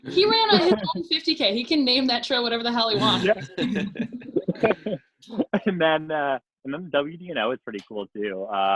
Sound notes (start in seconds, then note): 4.5 laugh